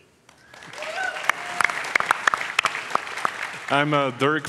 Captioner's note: audience applauds